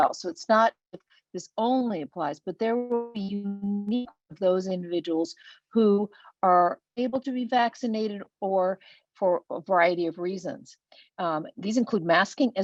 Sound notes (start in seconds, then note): 3.3 web-call distortion